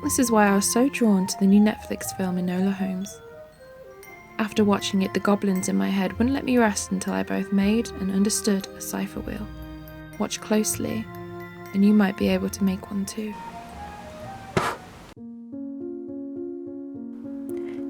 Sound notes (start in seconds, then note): 9.8 candle blowing out noise; 14.6 more spooky music